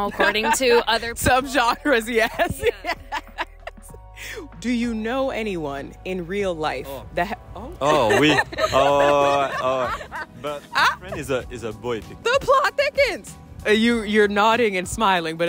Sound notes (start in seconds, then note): 2.2 laughs; 7.8 laughter